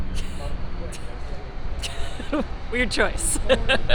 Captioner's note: laughs